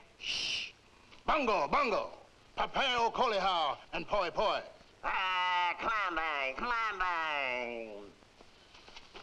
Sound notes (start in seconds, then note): 1.3 Rakos speaking in foreign language; 4.8 man speaking in foreign language